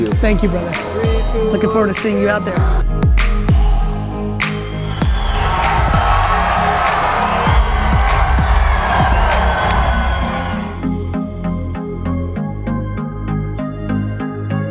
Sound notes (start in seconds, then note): 3.1 soft music; 4.4 audience cheers; 12.0 soft music